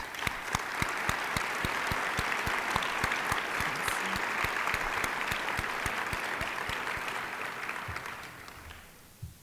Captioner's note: applause